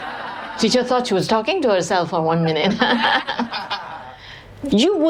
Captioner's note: laughter; 笑聲; laughter; 笑聲